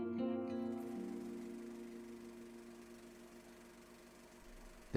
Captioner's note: film reel sound